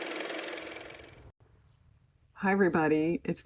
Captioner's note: car motor